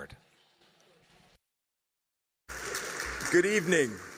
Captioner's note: applause